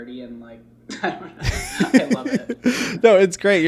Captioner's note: laughing